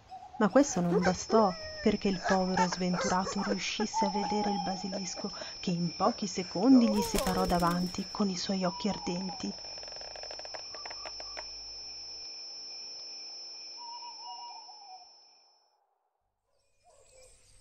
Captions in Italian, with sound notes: ma questo non bastò perché il povero sventurato riuscisse a vedere il basilico che in pochi secondi gli si parò davanti con i suoi occhi ardenti. [Versi di animali notturni]